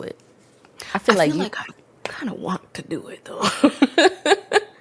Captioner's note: laughs